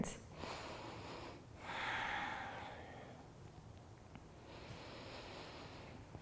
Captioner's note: inhaling and exhaling